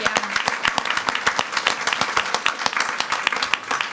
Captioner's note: all applauding